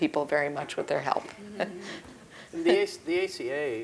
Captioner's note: laugh